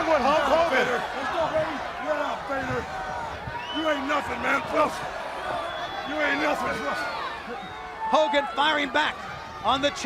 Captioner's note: crowd chatter